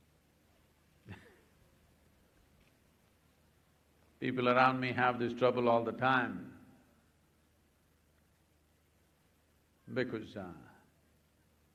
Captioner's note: laughs